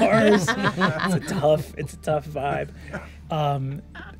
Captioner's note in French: rires